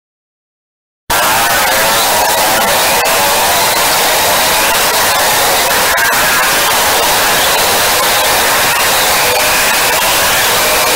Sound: broken voice

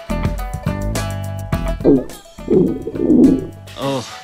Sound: stomach growling

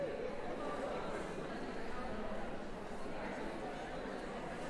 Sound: background conversations

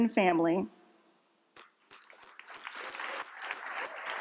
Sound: applause

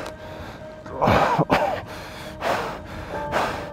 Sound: coughing

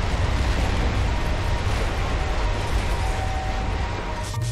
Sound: sirens wailing

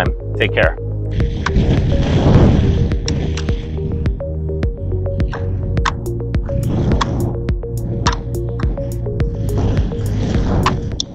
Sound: music and wind blowing

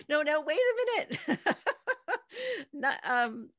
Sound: laughing

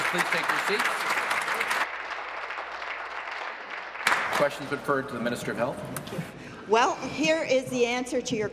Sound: applause

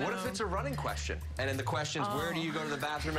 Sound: laughter

